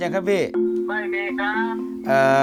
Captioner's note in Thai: เสียงจากโทรศัพท์